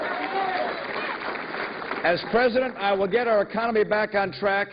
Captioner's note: cheers and applause